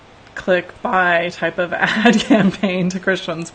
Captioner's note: laughs